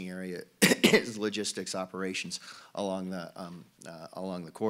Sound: cough

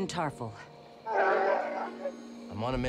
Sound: roar

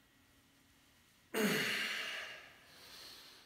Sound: grunting

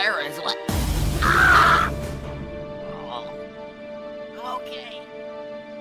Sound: groans

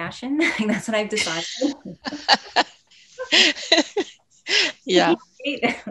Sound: women chuckling

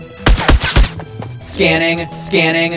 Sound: gun firing

